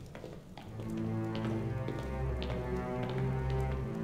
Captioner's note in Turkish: Ayak sesleri